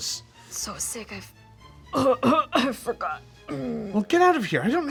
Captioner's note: coughs